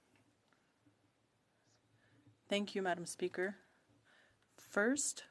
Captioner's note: speaking French